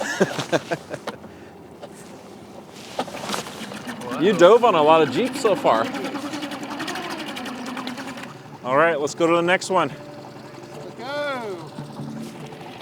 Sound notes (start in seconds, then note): 0.0 laughing; 6.3 boat motor whirring